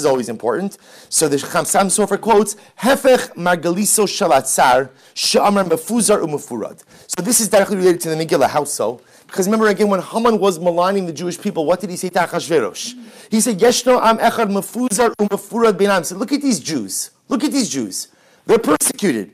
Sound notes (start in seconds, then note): 5.4 Hebrew